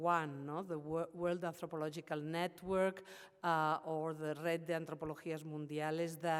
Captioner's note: speaks Spanish